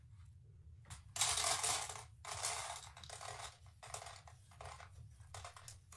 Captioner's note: grains rattling on tray